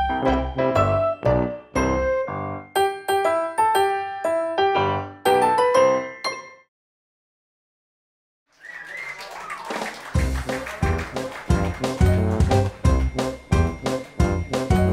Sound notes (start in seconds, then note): 8.5 clapping; 12.2 upbeat music